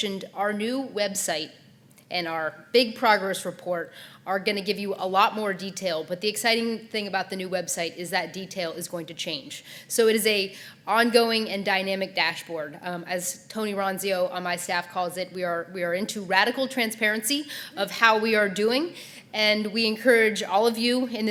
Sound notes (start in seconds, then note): none